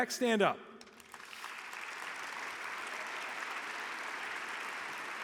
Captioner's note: audience applauding